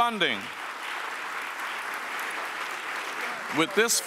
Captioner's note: audience applauds